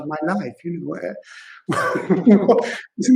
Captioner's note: joyful laughter